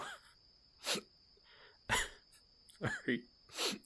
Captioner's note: sniffling